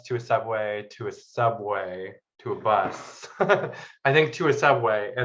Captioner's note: laughs